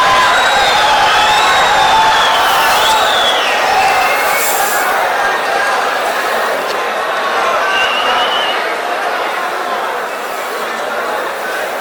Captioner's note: wild applause and cheering for 22 seconds